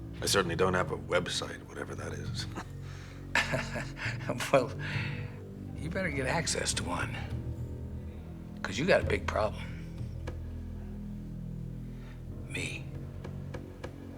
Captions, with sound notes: I certainly don't have a Web site, whatever that is. (Bridges laughs) Well, you better get access to one, 'cause you got a big problem. Me.